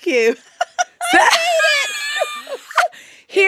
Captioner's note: laughter